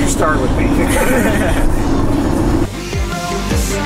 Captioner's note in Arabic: يضحك; موسيقى البوب المبهجة